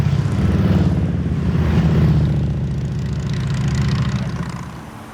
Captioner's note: motorcycle roar past